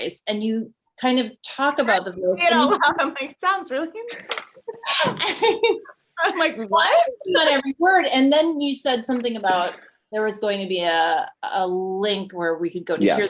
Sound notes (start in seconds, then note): 4.1 both laughing